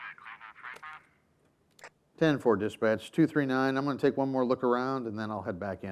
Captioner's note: chattering from police radio